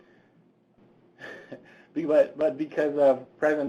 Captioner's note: sighing